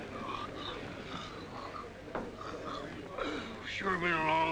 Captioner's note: crowd murmuring; yawning